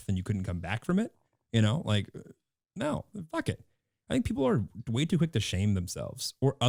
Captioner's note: none